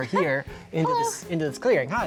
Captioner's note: laughs